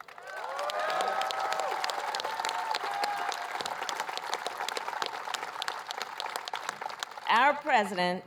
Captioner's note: applause